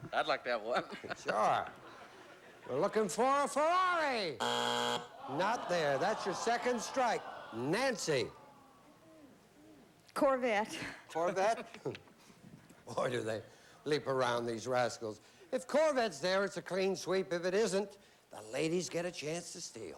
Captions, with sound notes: I'D LIKE TO HAVE ONE. WE'RE LOOKING FOR A FERRARI. [BUZZER] NOT THERE. THAT'S YOUR SECOND STRIKE. NANCY? CORVETTE. CORVETTE? BOY, DO THEY LEAP AROUND, THESE RASCALS. IF CORVETTE'S THERE, IT'S A CLEAN SWEEP. IF IT ISN'T, THE LADIES GET A CHANCE TO STEAL.